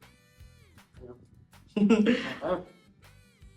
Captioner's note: chuckles